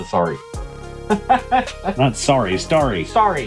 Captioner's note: laughing